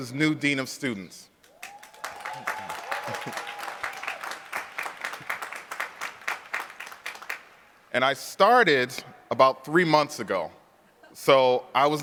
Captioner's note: applause